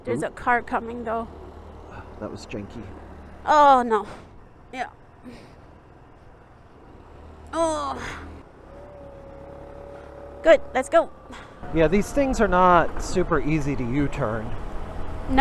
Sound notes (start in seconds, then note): 7.5 grunting